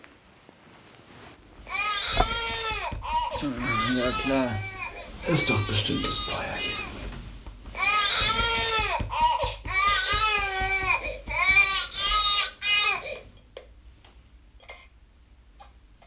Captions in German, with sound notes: (Baby schreit.) Ja, klar. Ist doch bestimmt das Bäuerchen. (Baby schreit.) (Klopfgeräusche)